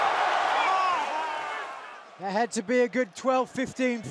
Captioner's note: crowd cheering